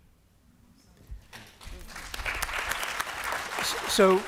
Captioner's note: applause